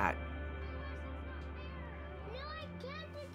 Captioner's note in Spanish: Gritos de niños jugando